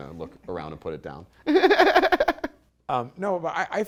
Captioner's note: laughter